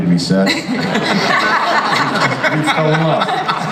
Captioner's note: audience and panelists laugh